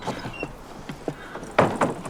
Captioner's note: thuds